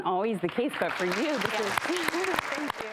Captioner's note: audience applause